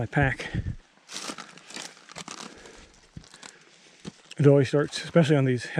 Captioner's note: dry plants crunching